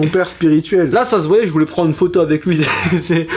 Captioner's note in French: rire